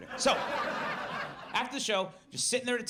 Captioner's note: audience laughs